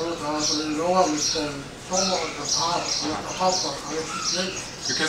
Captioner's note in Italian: parla birmano